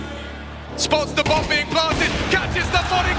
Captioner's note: gun firing